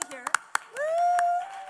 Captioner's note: applause and cheering